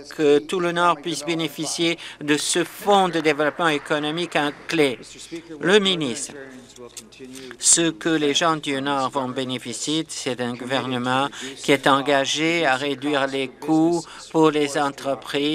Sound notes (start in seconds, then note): 6.2 applause